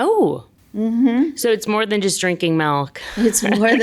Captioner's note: laughs